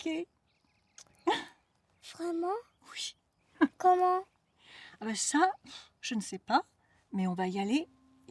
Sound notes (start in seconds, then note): 1.2 chuckles